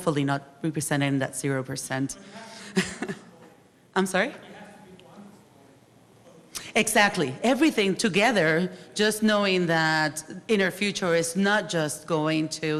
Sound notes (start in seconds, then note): 2.7 laughs; 3.4 speaks faintly; 7.9 speaks faintly